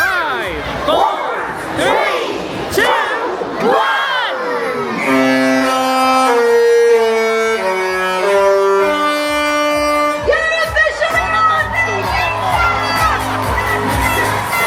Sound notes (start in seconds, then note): 4.9 horn honks to the tune; 13.7 upbeat music